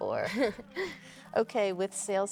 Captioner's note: Claire chuckles